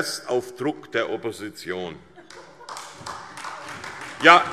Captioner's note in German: Beifall